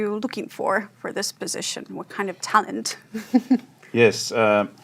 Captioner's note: chuckles